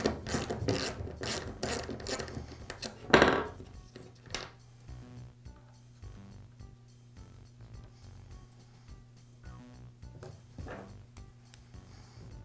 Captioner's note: pause